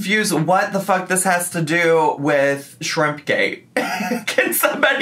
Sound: laughs

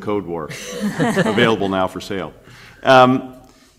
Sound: laughter

